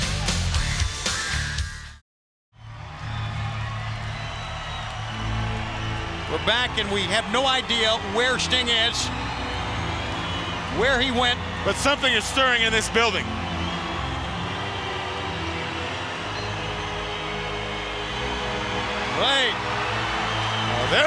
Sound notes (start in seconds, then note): 0.2 upbeat music; 2.7 crowd cheering; 13.5 crowd cheering; 13.5 light music